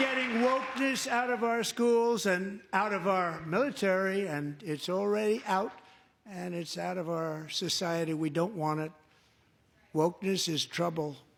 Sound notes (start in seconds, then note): 0.0 applause; 0.0 cheering; 0.0 applause